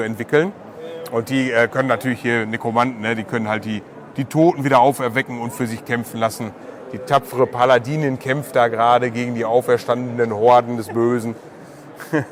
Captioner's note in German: lacht